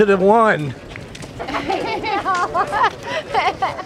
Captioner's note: laughter